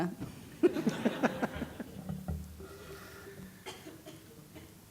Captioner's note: audience chuckling